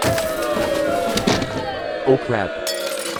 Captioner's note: things smashing